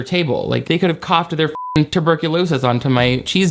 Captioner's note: beep